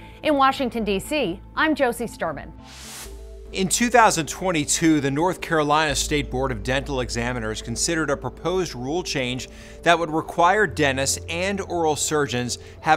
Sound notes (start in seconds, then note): 2.6 whooshing